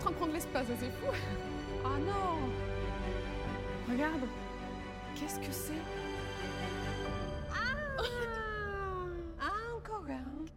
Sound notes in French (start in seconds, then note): 7.0 exclamations de surprise